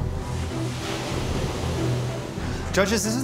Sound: waves crashing

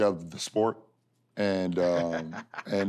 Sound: laughs

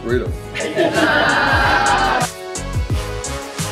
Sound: laughter

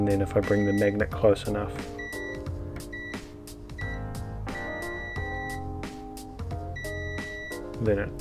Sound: beeping is heard

